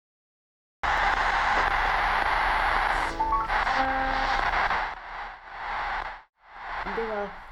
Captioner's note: when you turn on the radio